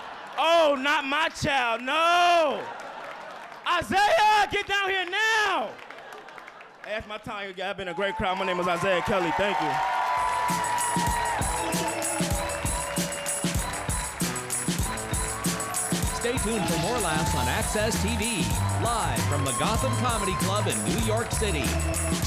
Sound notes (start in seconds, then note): 2.4 audience laughing; 9.9 audience cheering; 9.9 upbeat music